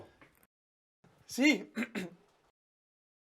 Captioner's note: carraspea